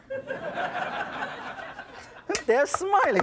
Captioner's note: audience laughs